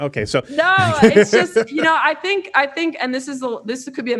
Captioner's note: laughing